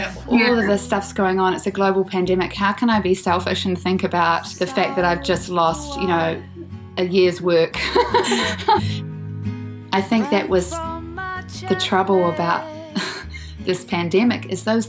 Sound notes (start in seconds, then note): 7.8 laughs